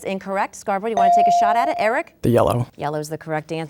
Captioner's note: bell dinging